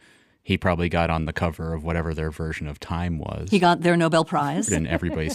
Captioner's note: laughs